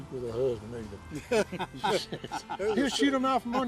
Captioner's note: group laughing